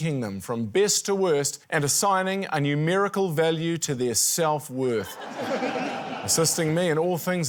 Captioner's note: laughter